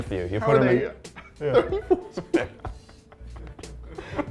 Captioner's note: laughing